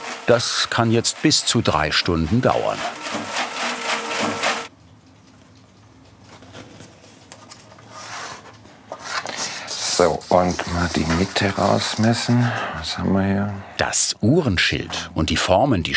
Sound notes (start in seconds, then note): 5.1 rattling in the background